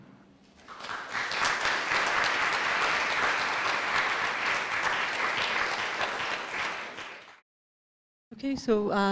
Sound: applause

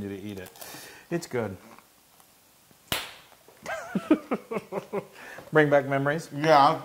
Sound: laugh

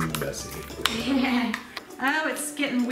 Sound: laughing

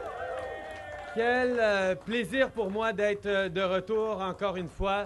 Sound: applause

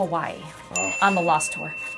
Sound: ding

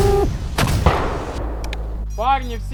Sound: explosion

